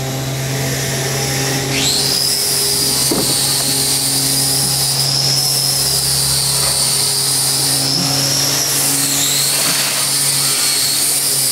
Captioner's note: repair Noise